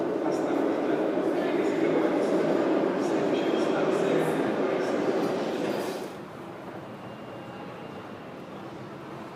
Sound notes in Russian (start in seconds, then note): 3.8 прибытие другого поезда на станцию; 5.1 закрытие дверей